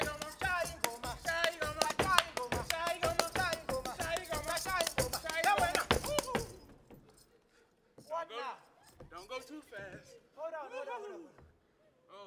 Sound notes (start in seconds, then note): 0.0 feet stomping and hands clapping; 4.4 speaking language other than English